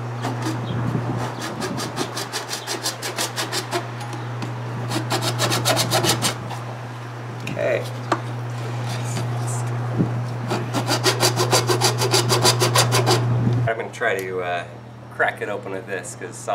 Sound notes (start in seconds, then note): 1.1 sawing; 10.4 sawing